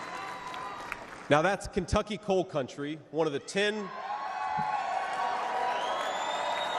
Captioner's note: cheers and applause